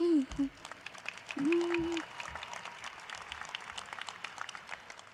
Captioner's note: applause